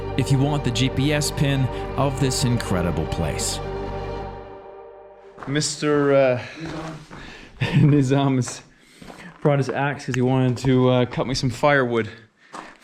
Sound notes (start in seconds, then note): 7.6 laughs